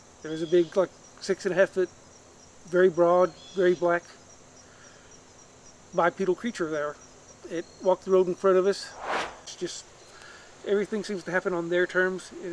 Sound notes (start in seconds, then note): 8.9 air swooshes